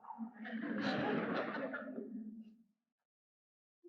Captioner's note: audience laughs